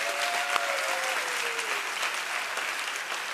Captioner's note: cheers and applause